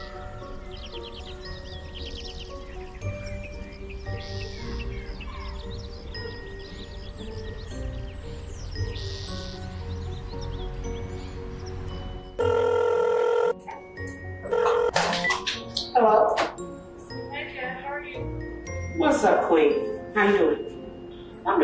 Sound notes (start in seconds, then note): 1.3 birds chirping; 6.8 mysterious music continues; 12.3 phone ringing